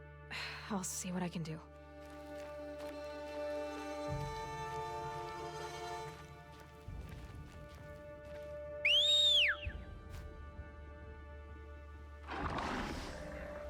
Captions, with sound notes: (sigh) I'll see what I can do. (whistle)